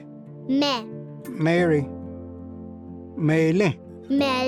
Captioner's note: repeats in Cherokee